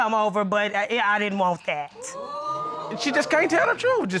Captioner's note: audience exclaiming